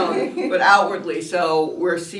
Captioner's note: laughter